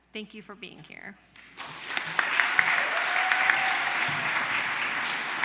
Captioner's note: applause